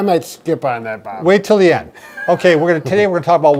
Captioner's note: laughing